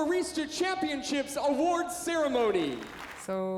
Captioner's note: applause